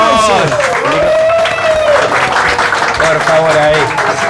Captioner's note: cheers and applause